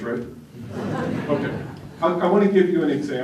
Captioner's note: laughter